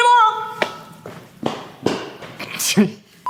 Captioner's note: feet landing on floor; laughs